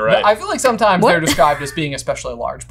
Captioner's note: laughing